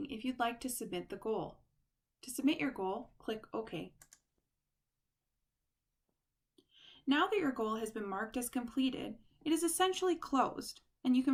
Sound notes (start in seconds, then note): 4.0 click